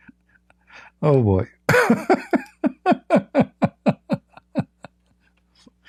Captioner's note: Ketawa